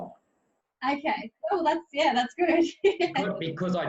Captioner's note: chuckles